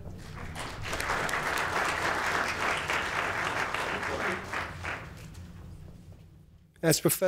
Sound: applause

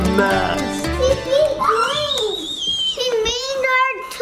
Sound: shrieks excitedly

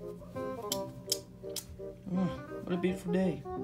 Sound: Freddy's Lips Smackering

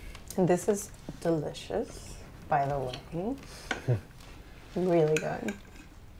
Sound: none

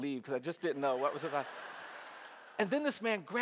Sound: audience laughs

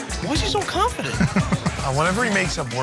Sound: laughing

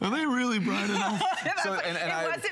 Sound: laughter

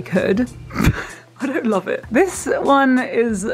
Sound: laughs

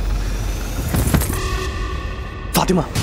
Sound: banging

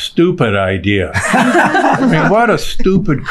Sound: all laughing

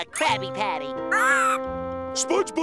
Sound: screeching

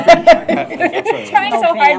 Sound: laughter

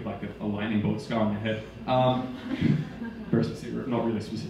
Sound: audience laughing

